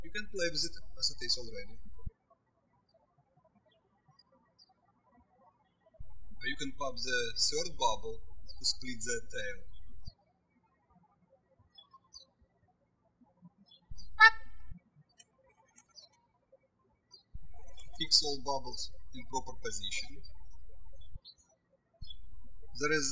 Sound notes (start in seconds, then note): 10.7 birds chirping